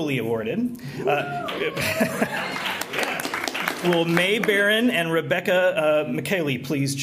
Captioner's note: applause